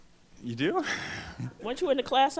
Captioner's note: voiceover